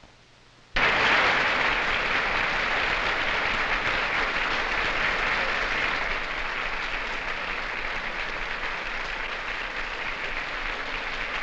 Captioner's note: applause